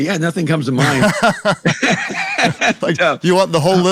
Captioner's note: both laughing